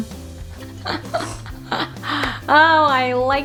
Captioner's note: laughing